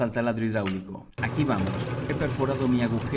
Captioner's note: Se oye el taladro hidr‡ulico